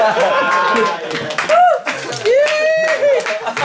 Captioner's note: cheering